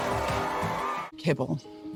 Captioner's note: crowd continues cheering